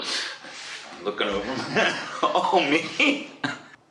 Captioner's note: laughs